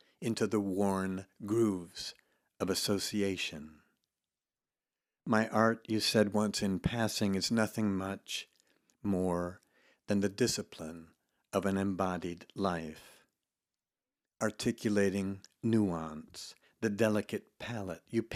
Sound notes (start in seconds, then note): none